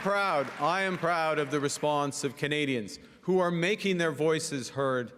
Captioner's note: cheering and Applause